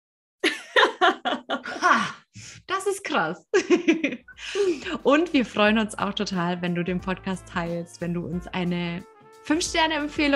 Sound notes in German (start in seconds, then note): 0.5 lachen; 3.5 lachen